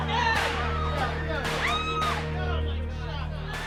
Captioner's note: screaming; gun shots